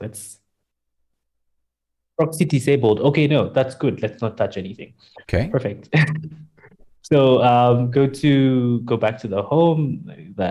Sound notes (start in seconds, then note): 5.3 laughs